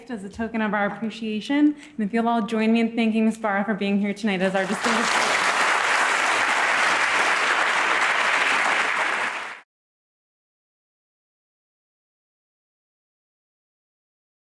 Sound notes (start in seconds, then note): 4.5 applause